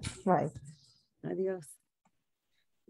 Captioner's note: speaks in foreign language